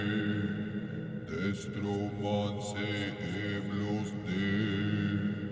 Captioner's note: chanting in foreign language